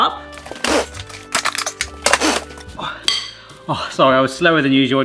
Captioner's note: cutlery clanking